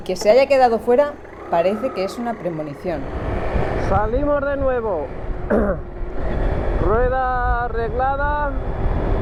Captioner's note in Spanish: carraspeo